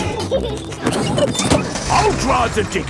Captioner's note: peppa and george laughing